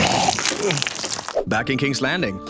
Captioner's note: vomits